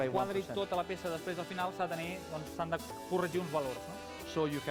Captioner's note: non-english speech